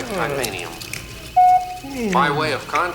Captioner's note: beep